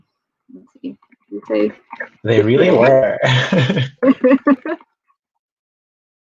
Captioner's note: both laugh